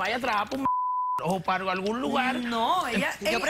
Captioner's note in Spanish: Bip